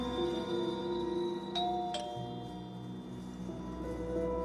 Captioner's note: door bell ringing